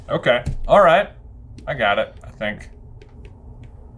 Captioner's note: none